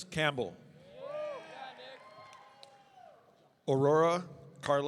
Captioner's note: audience cheering